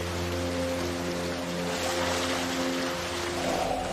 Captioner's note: water splashes